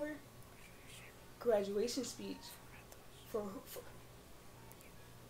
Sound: whispers

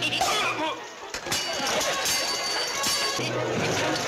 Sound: steel clanking

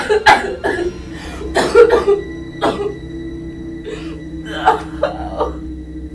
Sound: ominous music; Lisa crying

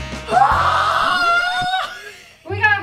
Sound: screaming

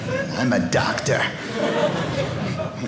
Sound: audience laughing

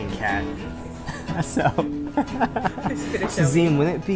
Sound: laughs; laughing: This is going to kill me

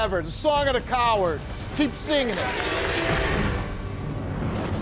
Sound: audience applauds; dramatic music

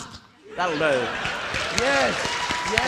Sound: audience applauding

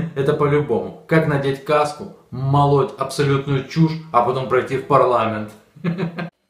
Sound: in the Ukrainian language in tune with the tale

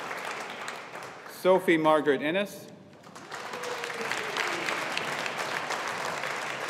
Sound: audience applauding

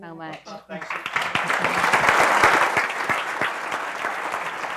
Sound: applause

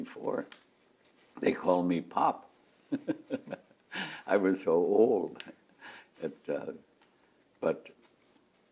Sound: laughs

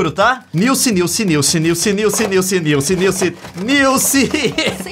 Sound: laughing

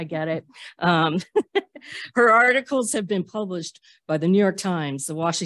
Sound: laughter

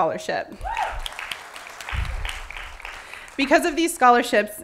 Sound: applause

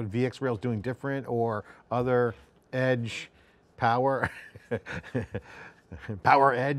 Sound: laughs

